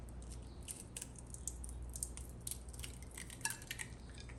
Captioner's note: egg sizzling